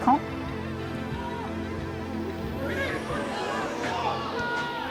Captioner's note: crowd cheers